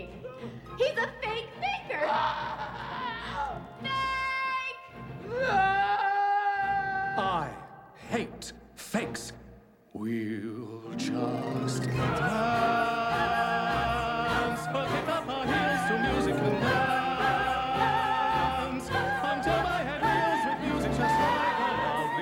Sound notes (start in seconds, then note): 0.2 screaming